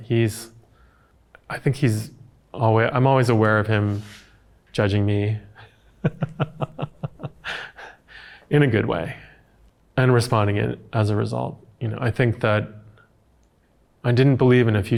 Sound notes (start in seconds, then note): 5.9 chuckling